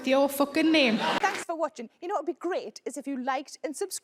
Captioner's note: audience laughing